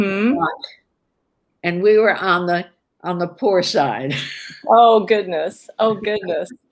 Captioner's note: laughs